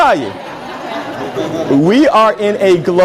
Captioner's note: laughter